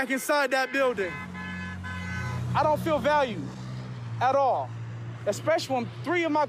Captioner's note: horns honking